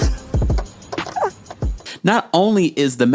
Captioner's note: laughing